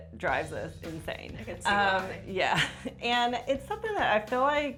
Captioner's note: chuckles